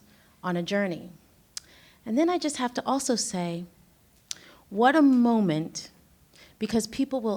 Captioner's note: clicks tongue